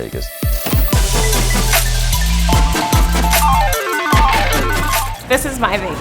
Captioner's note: slow machine whirring